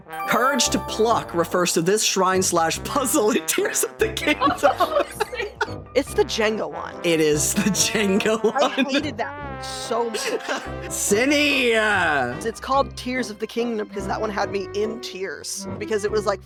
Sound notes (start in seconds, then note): 4.3 cackling; 7.6 laughing